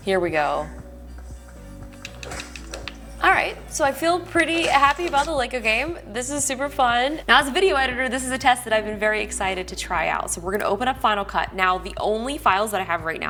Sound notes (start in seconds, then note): 2.4 Lego bricks breaking